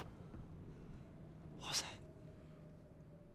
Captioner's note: rumbling